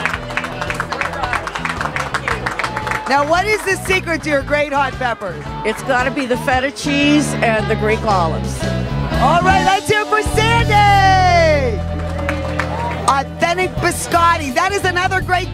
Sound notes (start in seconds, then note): 0.0 group applauding; 10.9 group cheers